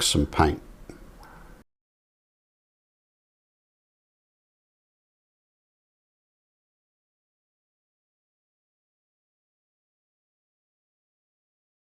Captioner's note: silence